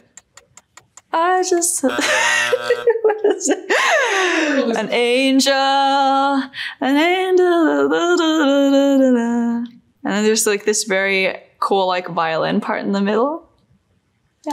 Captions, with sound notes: "I just..." (buzzer goes off) (chuckles) An angel, an angel, (scatting) And then there's like this very cool like violin part in the middle.